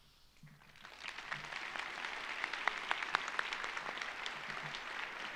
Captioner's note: audience applauding